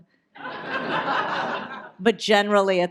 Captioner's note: audience laughs